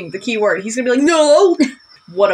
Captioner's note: chuckle